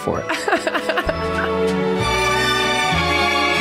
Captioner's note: laughing; upbeat music